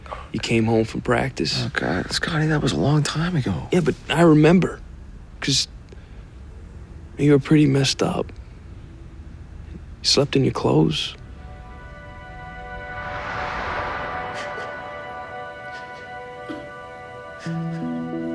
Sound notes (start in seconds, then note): 14.3 sobbing